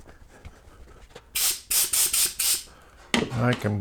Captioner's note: air blasts